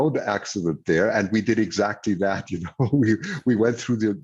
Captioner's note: laughs